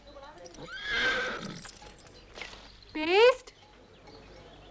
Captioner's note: horse neighs